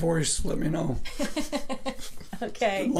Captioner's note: both laughing